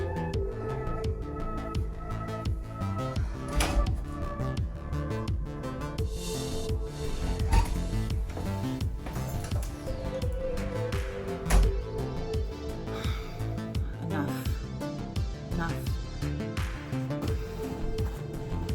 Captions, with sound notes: (door clicking) (door thudding) - (sighs) Enough. Enough.